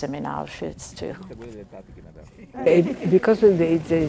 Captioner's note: crowd member speaking in foreign language